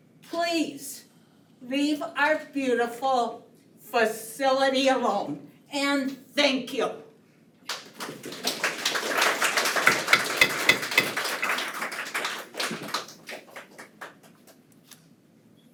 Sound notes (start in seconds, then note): 7.6 attendees applaud; 9.8 gavel pounds